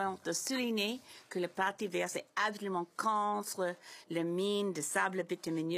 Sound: speaking in French

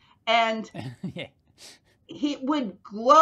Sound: chuckles

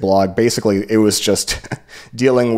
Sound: chuckles

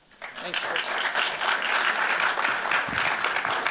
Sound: applause

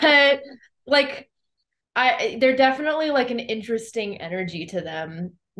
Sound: laughs; laughs

